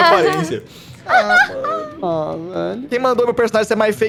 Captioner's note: laughs